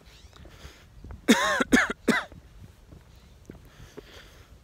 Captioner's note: coughing